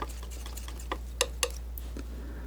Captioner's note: scratching